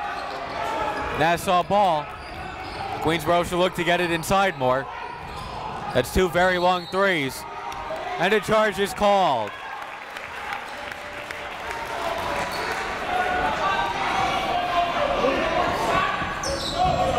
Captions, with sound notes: Nassau ball. Queensborough should look to get it inside more. That's two very long threes (whistle blows) and a charge is called. (crowd talking) (coaches yelling)